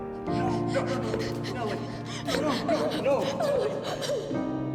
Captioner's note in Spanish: voces haciendo eco